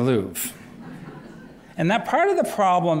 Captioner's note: laughter